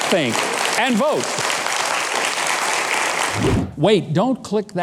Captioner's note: audience clapping